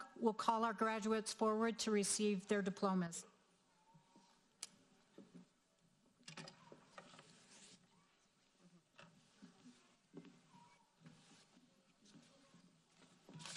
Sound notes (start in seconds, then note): none